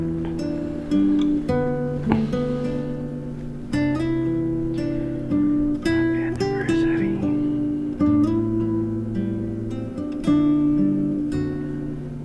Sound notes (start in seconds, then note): 6.0 whispers